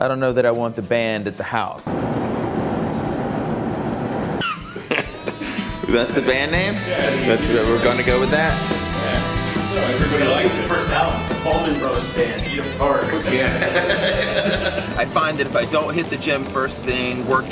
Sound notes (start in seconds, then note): 4.4 laughter; 13.2 laughing